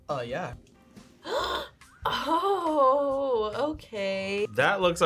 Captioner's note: gasps